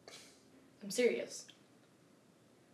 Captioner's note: Pastor Roland snorts